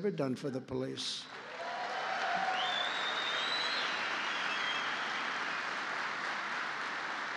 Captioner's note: applause